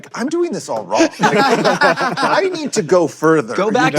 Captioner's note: laughter